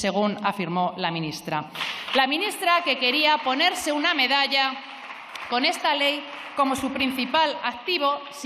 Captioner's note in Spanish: aplausos